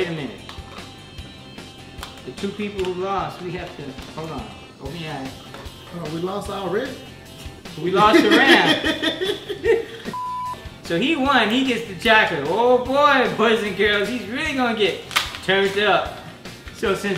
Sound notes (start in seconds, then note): 8.0 laughing; 10.1 beep